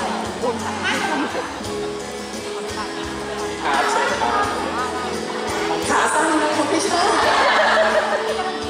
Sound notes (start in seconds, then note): 7.1 laught